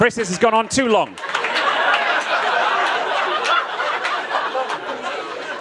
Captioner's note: audience laughs